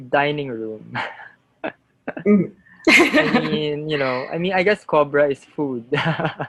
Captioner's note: laughter